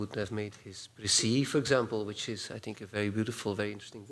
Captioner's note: non-english